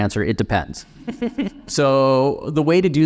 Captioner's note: laughing